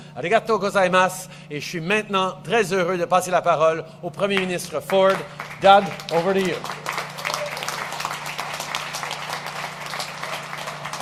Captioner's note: speaks French; applause